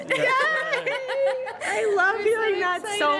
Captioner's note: laughter